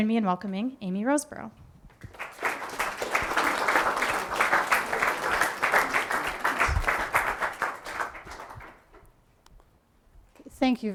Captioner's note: applause